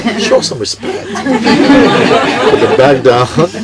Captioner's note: more laughter